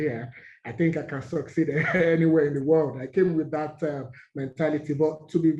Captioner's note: laugh